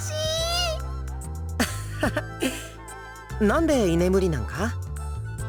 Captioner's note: laugh